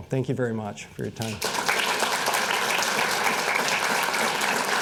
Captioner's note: applause